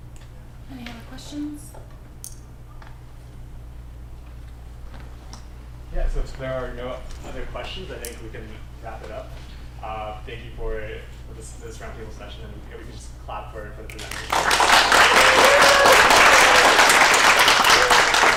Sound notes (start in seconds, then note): 13.9 applause